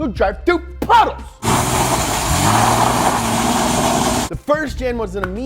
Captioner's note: engine revving